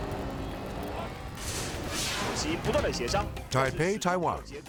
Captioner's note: video swooshing